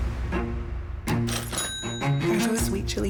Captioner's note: cash register bell rings